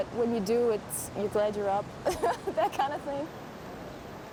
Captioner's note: woman laughs